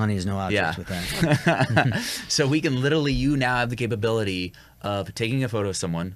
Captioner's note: laughs